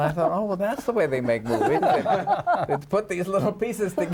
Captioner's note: laughing